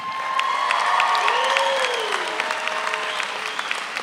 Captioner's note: all applaud